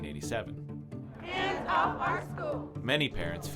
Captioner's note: crowd chants